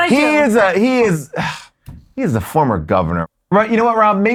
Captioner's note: sighs